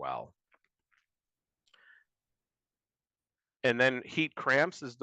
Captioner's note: Silencio